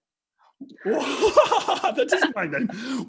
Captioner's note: laughing